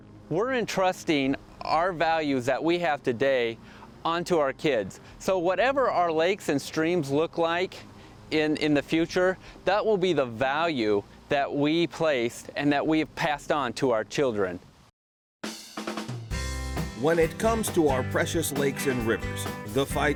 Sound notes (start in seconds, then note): 16.3 upbeat music; 17.4 voiceover